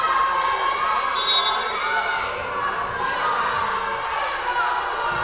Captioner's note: whistle blowing